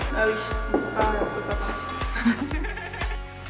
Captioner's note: laughs